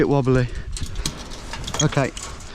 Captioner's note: wire clanking